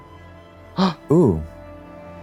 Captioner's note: Trixie pants